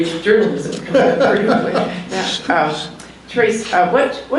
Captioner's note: laughs